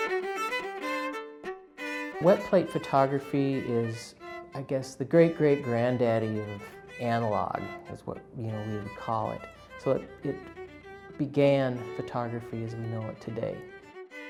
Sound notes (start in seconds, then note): 2.5 voiceover